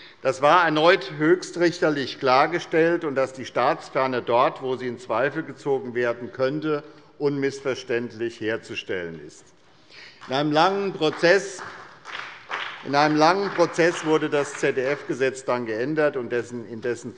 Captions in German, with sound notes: Das war erneut höchstrichterlich klargestellt, dass die Staatsferne dort, wo sie in Zweifel gezogen werden könnte, unmissverständlich herzustellen ist. (Beifall bei der SPD) In einem langen Prozess wurde das ZDF-Gesetz dann geändert und in